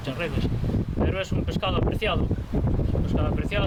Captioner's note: sound of the rough winds of the Atlantic